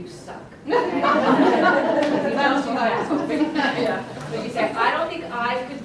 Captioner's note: laughs